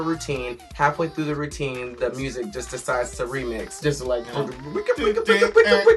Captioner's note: record scratching noises